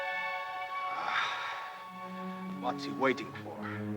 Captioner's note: Ramirez sighs